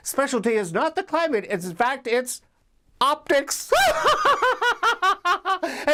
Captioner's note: laughs